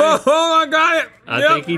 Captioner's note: laughs